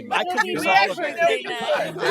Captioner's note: laughter